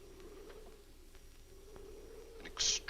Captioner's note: muffled wind howls